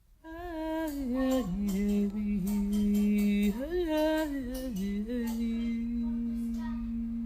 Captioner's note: child babbling; woman vocalizing